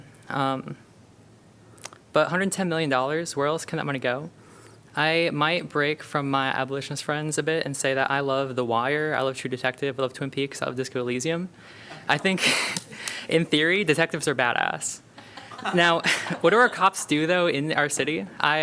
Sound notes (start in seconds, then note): 12.1 laughter; 15.2 laughter